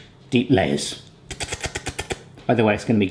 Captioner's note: smacking lips